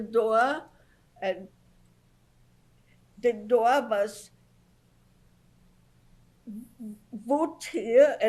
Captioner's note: pauses for 3 seconds